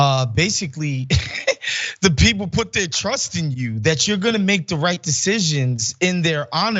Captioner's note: laugh